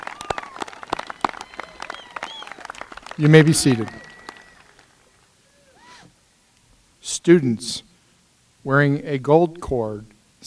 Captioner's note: applause